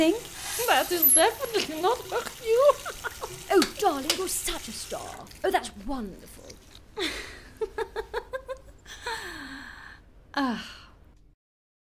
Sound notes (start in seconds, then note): 7.0 laughter